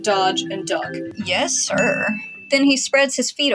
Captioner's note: ding